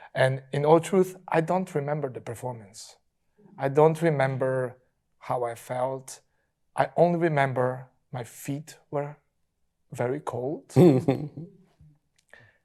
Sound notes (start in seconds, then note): 10.7 panelists chuckling